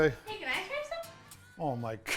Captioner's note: voiceover